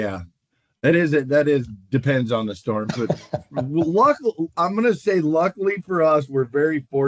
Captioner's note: laughter